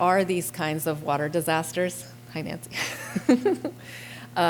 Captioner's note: laughter